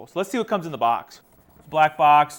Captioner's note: device clicks